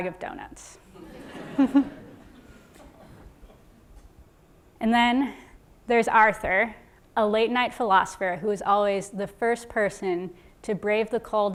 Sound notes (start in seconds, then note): 0.9 laugh